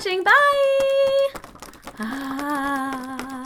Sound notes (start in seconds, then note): 1.9 sighs